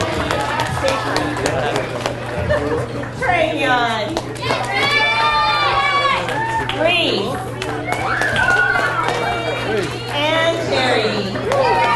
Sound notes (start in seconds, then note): 0.1 people chattering; 1.7 chuckles; 4.2 audience cheers and applauds